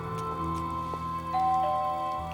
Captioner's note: doorbell rings